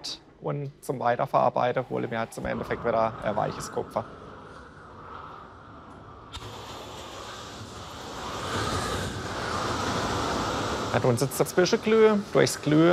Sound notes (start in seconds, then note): 3.8 hissing; 7.4 hissing gets louder